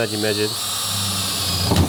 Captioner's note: battery-powered drill